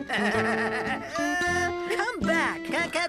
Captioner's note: laughing